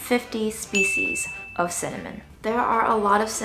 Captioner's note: bell dinging